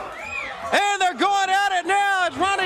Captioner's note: crowd cheering